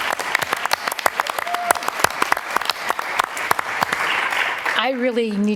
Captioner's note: applause